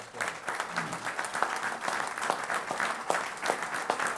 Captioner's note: applause